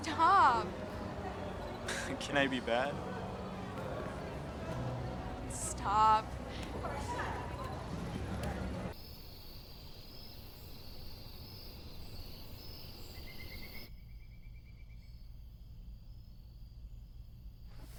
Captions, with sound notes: - Stop. - Can I be bad? - Stop. (crickets chirping)